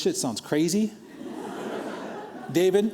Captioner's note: laughter